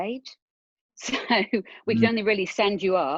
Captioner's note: chuckling